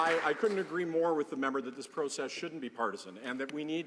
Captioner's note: some Applause